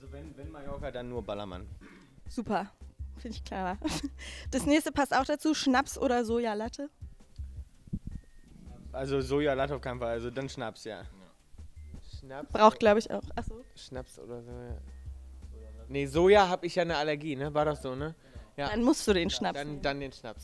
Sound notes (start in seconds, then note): 3.8 laughs